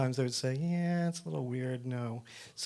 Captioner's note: none